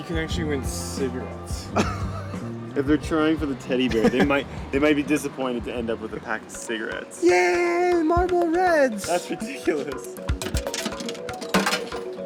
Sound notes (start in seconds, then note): 1.5 laughing; 7.4 in high-pitched voice; 10.7 coin clanking